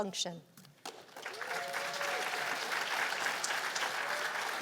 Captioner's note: cheers and applause